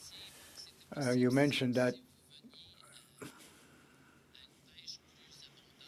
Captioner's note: speaking French